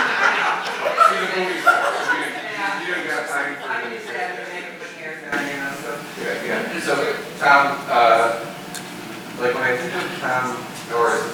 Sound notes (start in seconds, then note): 0.0 people laughing; 4.0 people chatting